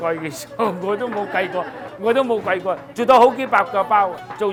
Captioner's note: group laughs